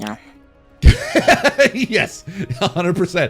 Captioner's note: laughing